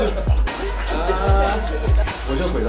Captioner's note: laughs out loud